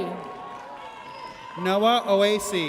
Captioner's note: audience cheers